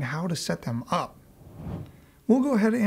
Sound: air whooshing

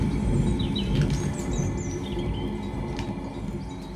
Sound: birds chirping

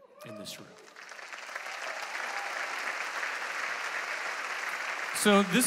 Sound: congregation applauding

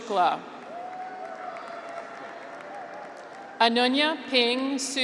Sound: graduates cheer

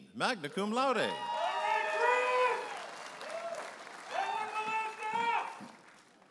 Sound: audience applauding and cheering

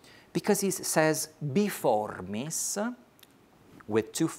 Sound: speaks foreign language

